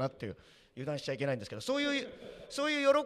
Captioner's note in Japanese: 会場から笑い